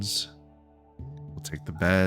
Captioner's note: silence